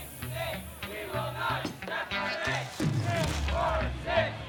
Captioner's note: people chanting